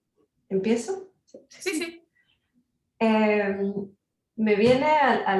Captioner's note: speaking Spanish